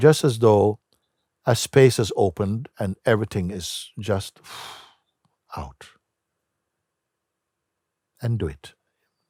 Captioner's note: exhales